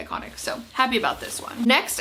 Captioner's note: jacket shuffling